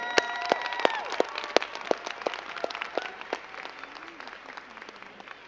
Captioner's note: crowd cheering and clapping